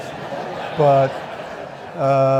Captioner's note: audience laughing